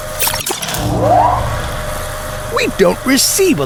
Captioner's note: the fuel engines hum louder